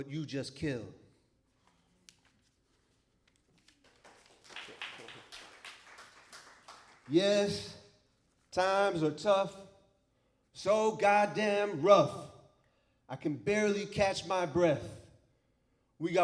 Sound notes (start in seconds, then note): 3.6 applause